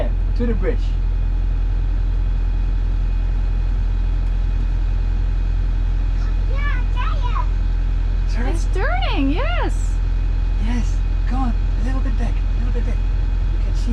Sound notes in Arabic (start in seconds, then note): 1.7 محرك القارب يزأر; 6.5 يغمغم